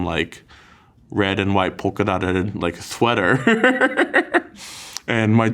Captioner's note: laughs